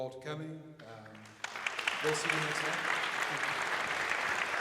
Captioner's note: applauding